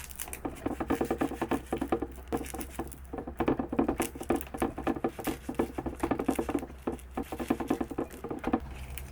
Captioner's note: the clattering sound keeps coming out.. ㅠ_ㅠ